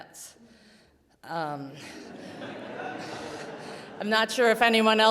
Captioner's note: audience laughing